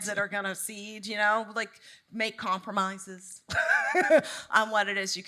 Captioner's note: laughs